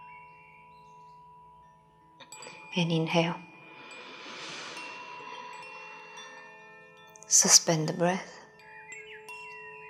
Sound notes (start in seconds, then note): 3.7 inhaling; 9.7 tranquil music